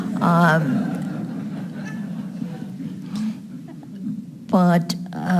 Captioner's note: audience laughing